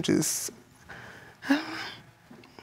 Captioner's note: holds breath